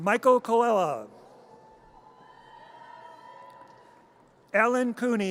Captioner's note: audience cheers